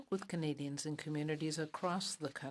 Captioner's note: speaking in French